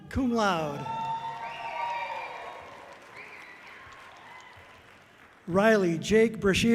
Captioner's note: audience cheering loudly